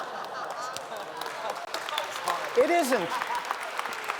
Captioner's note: laughter; applause